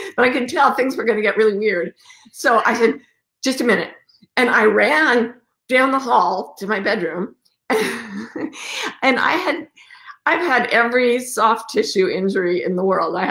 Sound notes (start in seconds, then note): 7.8 laughs